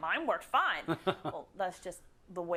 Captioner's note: laugh